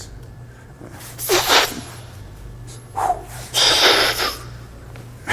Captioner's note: pretends to smoke - inhale/exhale sounds